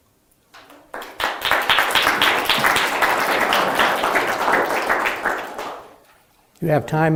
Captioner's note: audience applause